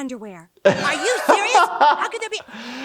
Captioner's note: laughs